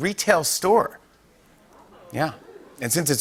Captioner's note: audience oohs